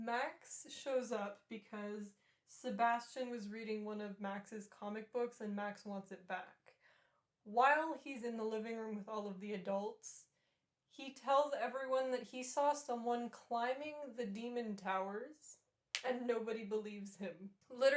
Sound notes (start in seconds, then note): none